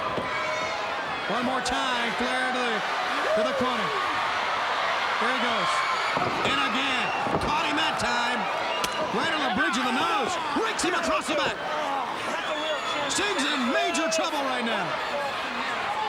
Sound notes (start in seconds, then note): 4.1 crowd cheering; 6.3 Ric thudding on ring